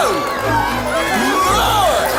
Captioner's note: patients shouting indistinctly